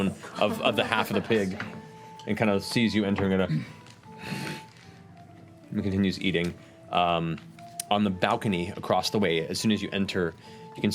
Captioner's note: grunts